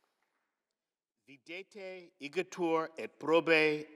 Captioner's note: speaking latin